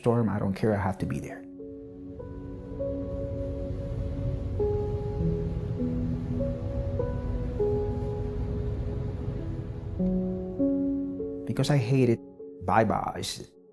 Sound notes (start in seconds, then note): 1.7 rain falling; 2.7 gentle music continues